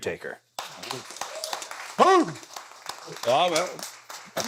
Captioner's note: audience clapping